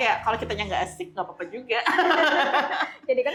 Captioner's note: laughs